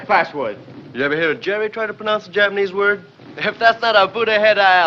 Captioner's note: none